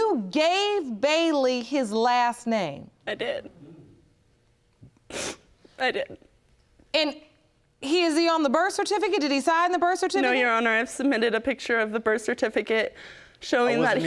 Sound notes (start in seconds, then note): 5.0 sniffling